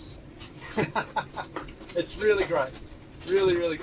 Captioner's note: laughing